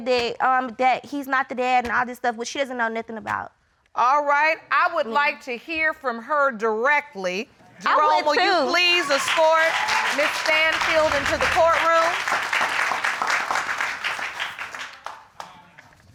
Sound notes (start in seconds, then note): 11.3 audience clapping